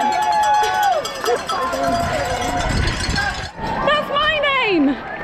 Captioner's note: crown noise